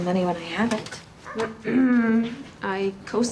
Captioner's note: clears throat